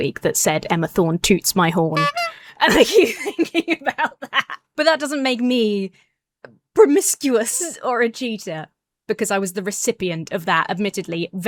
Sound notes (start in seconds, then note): 1.9 laughs; 1.9 horn toots